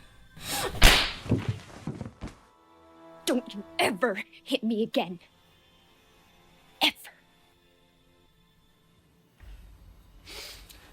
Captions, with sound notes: (hand slaps) (Louise thuds) - Don't you ever hit me again. Ever.